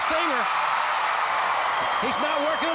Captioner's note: crowd cheering